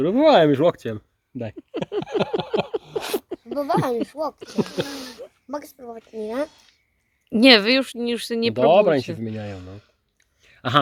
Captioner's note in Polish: śmiech